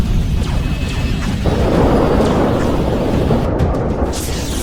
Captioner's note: cannons blasting